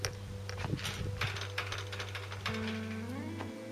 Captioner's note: gate rattles